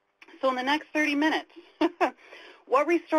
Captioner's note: laughs